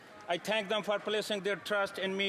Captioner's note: applause